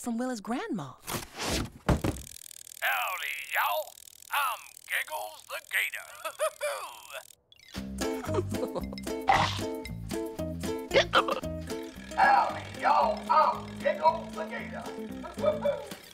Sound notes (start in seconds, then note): 3.7 laughing; 6.7 hiccupping